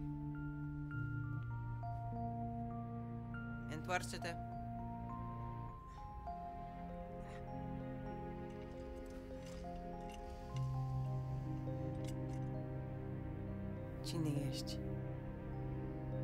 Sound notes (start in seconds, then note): 3.2 speaking foreign language; 7.0 light music